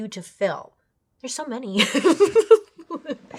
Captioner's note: laughs